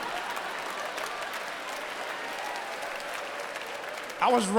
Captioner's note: audience applause